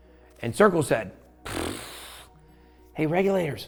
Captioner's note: blows raspberry